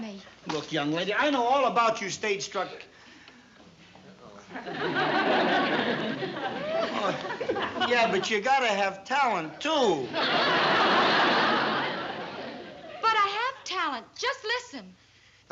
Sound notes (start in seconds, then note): 4.5 laughter